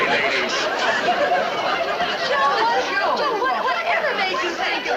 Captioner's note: people chattering